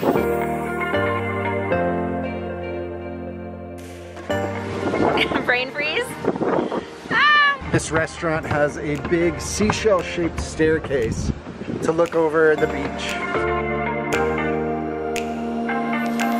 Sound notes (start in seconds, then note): 0.2 cheerful music; 5.0 wind blowing; 11.9 cheerful music